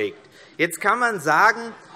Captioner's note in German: Zurufe SPD